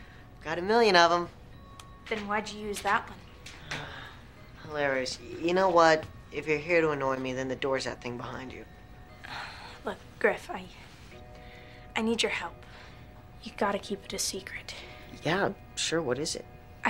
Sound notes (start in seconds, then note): 3.6 Griffin sighs